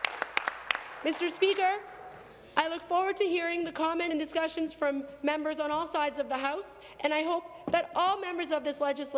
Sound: some Applause

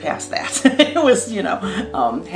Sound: laughing

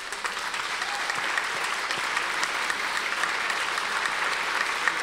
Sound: audience applause

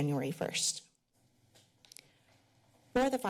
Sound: pause

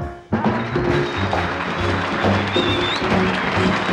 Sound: audience applauds

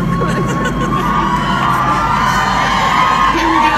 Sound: applause

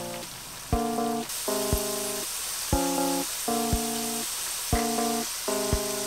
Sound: sizzle

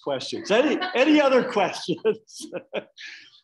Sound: laughing

